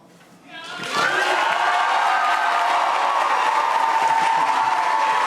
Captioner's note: audience cheering and applauding